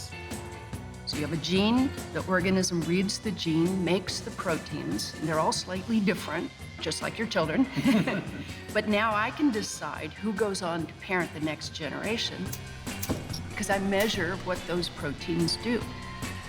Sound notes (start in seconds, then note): 7.5 laughs